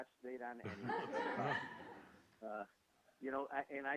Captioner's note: laughing